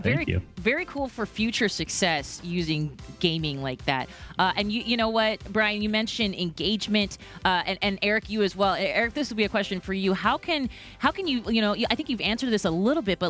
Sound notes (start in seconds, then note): none